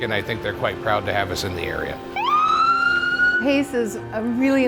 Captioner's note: ambulance siren